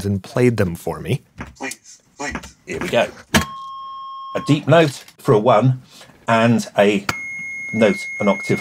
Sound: computer sound

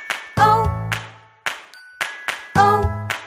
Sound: clap

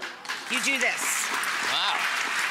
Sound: audience applauds

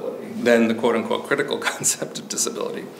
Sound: chuckles

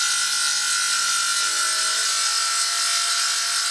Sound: sound of a saw

